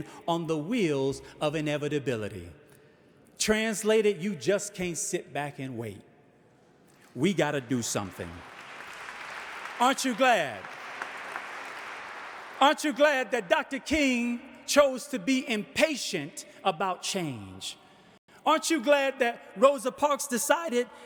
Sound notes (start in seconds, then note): 7.1 audience applauding